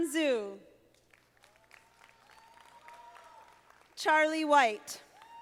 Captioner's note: audience applauding